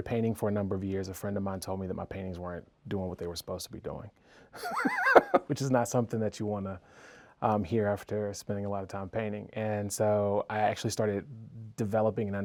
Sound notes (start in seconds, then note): 4.6 laughing